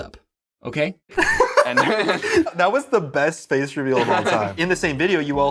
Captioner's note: laughs